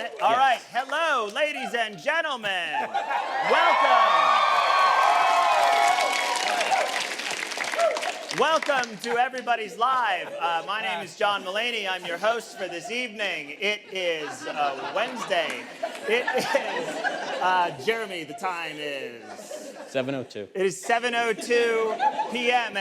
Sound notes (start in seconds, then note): 4.8 audience cheers